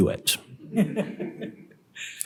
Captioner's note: laughter